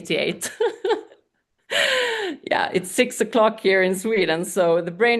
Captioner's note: laughs